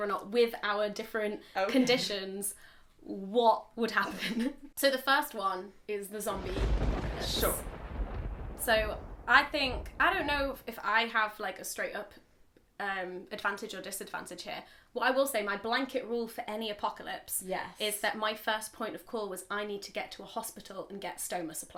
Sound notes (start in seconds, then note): 6.3 thunderstorm sound